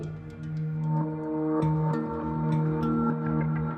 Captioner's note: reverberating tones